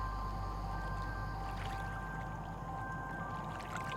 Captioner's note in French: clapotis d'eau